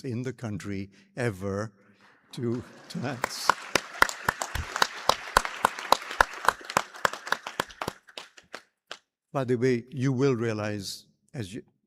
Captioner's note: applause